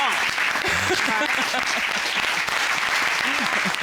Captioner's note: laughing